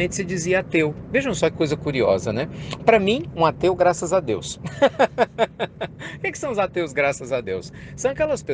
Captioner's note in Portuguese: Risos